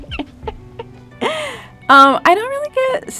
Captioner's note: Jillian laughing